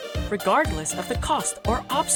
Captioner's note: none